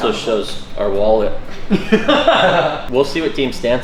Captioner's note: laughs